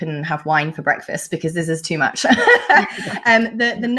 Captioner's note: laughs